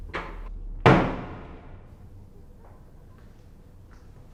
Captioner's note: slamming door